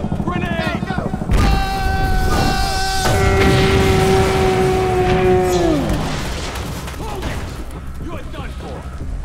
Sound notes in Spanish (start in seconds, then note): 1.3 explosión